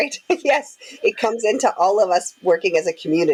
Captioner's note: laughing happily